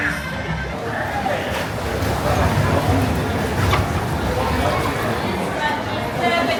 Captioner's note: people chatter